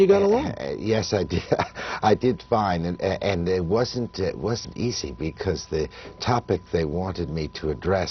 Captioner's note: laughter